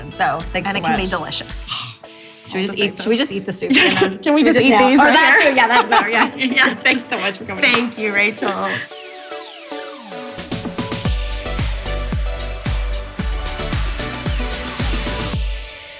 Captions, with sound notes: - And it can be delicious. - Should we just eat the soup Jenna? - Can we just eat these right here? (laughs) - Or that, too! Yeah, that's better! Thanks so much for coming. - Thank you, Rachel. (upbeat music)